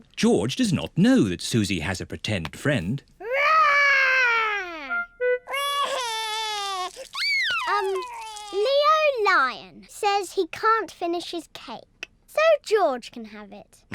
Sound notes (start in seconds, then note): 5.4 crying